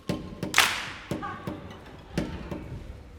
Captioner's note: dancers clapping; bouncy music